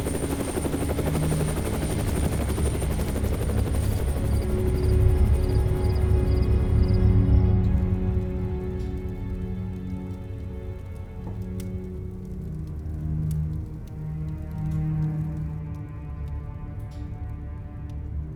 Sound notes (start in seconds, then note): 0.0 helicopter whirring; 0.1 gentle orchestral music; 8.1 fire crackling; 8.1 gentle orchestral music